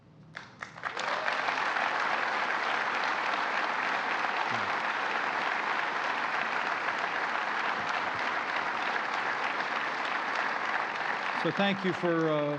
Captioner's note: applause